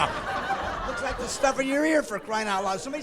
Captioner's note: laughing